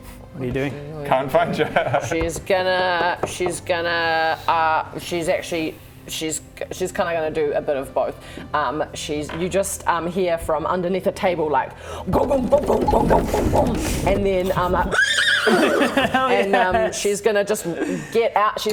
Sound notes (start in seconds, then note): 12.2 undead bestial clopping; 14.8 hideous death whinny